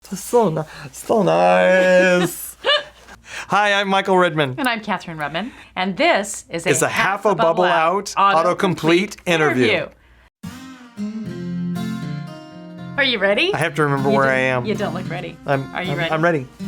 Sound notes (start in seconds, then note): 1.8 laughing; 10.4 gentle guitar music